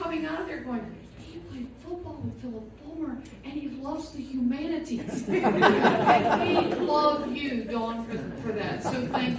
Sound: laughter

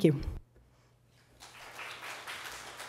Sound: applause

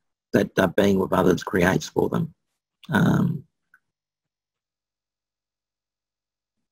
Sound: pause

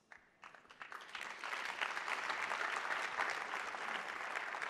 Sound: attendees applauding

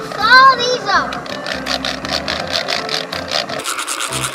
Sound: tools scratching

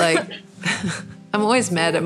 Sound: laughter

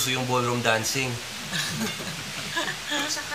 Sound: all chuckling

